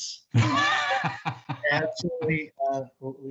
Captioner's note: laughs